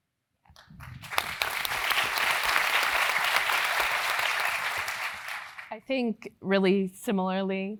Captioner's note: applause